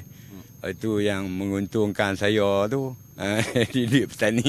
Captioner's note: laughs